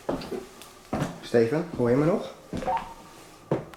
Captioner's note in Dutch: voetstappen op de trap; geluid van walkie-talkie